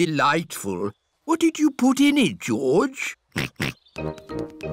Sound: snorts

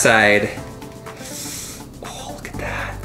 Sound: sucking through teeth

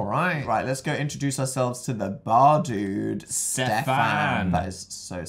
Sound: spanish accent

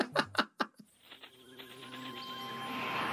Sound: RuPaul chuckles

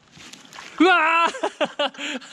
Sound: screams

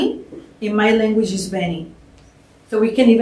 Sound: non-english; non-english

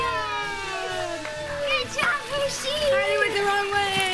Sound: cheering

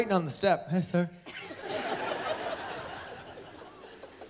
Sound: laughter

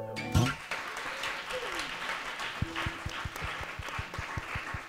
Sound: applause

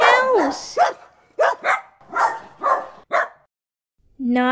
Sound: barking

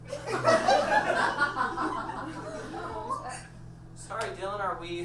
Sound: audience laughs

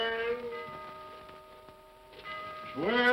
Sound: clock chimes

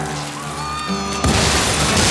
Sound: screams; explosion sound

